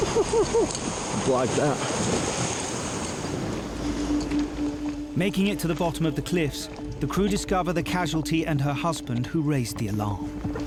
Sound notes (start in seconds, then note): 3.9 waves crashing